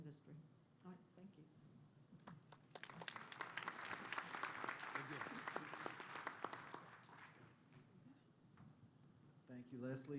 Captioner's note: applause